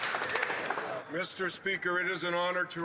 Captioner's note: some Applause